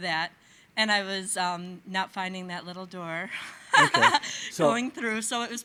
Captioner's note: laughing